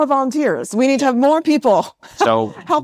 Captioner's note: laughs